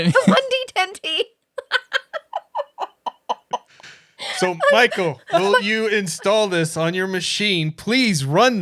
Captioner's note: laughing